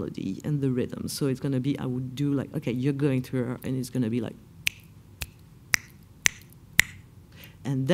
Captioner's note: Céline snaps her fingers in rhythm